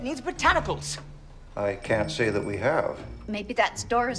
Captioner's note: phone ringing